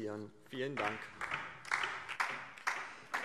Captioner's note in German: Beifall DIE LINKE